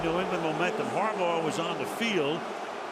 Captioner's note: booing